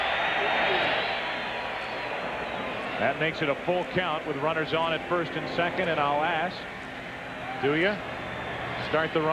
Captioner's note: cheering